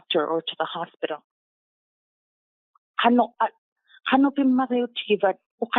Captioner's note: inuktitut spoken